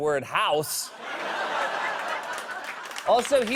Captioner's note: laughter